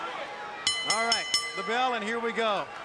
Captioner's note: bell ringing